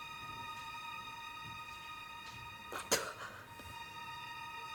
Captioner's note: spits